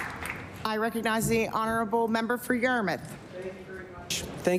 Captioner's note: applause